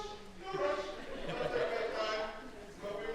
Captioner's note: laughter